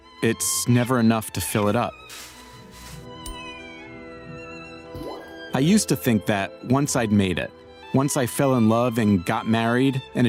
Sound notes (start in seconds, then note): 3.4 fall whistling; 4.9 drop plopping